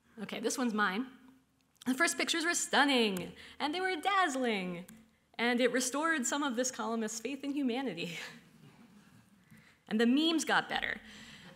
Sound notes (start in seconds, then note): none